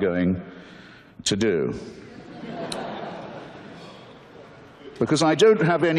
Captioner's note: audience laughter